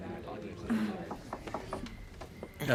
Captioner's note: knocking